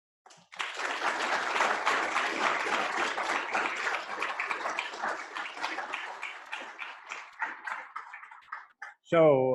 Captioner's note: applause